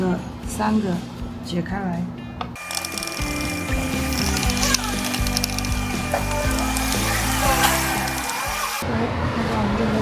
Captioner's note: unscrewing